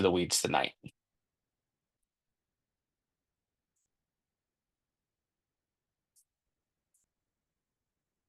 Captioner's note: silence